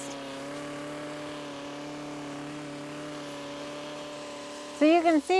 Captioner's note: cultivator whirs